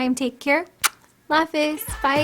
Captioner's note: blows a kiss